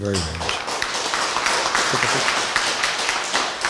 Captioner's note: applause